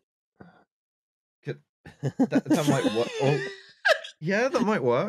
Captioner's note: laughs